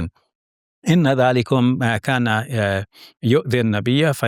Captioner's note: speaking Arabic